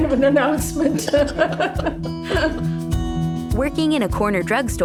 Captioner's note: both laughing